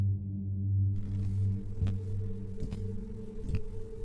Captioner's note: walking footsteps